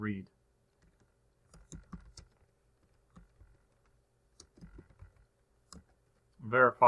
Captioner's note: typing